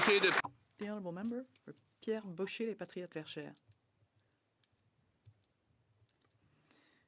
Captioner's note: applause